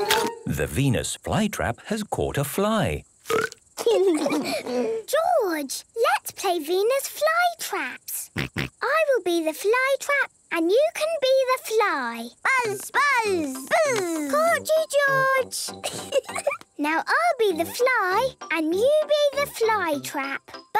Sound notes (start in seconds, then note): 3.2 burps